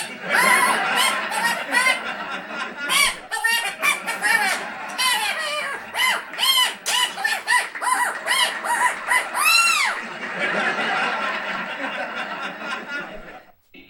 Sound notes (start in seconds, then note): 0.1 laugh track; 10.2 laugh track